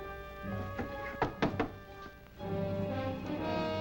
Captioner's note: knocking